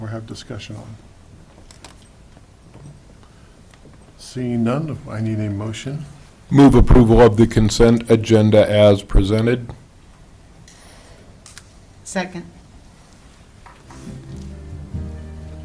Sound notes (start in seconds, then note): none